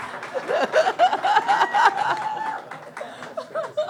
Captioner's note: audience laughs